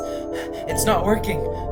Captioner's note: gasping for air